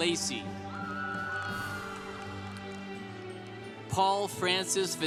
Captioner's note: congregation applauding